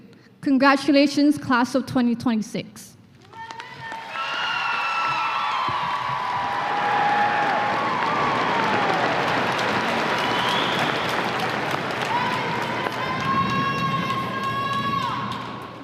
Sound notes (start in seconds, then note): 4.9 applause and cheers